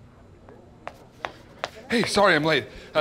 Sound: footsteps tapping

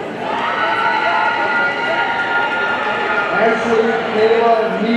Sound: audience cheering

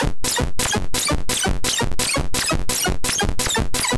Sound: beeping sounds

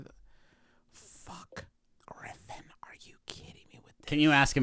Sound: whispering

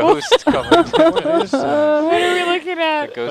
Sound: female laughter

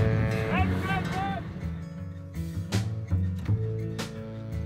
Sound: man shouts

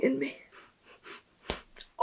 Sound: breathing heavy; pop

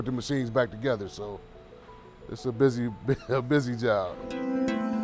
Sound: chuckling; guitar music

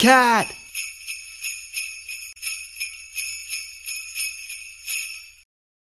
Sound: sleigh bells

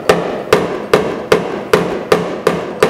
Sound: thuds

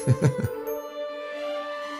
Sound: laugh

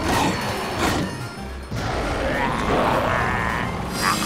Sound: growling

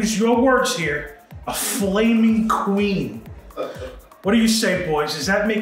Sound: laughing

